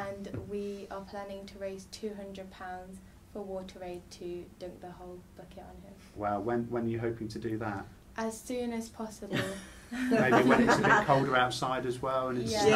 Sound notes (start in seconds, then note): 9.9 laughs